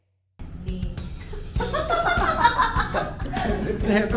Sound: laughs

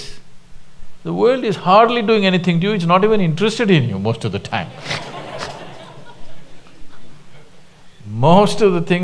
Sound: laughter

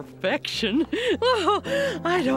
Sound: chuckling

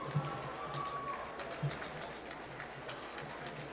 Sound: applause

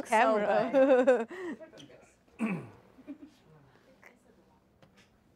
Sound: laughing

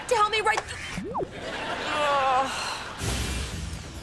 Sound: groaning

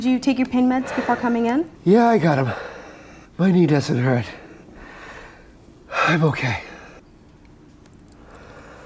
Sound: heavy breathing

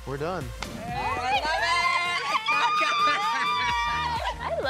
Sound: cheering

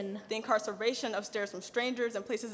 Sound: none

